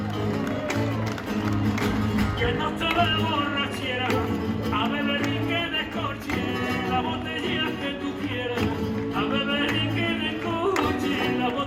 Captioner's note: applause